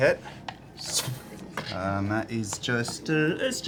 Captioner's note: poof